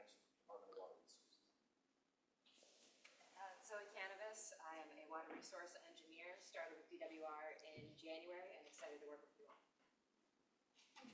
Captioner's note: speaker off mic